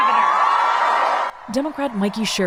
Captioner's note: cheering